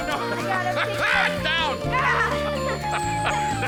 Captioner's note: laughs; all laughing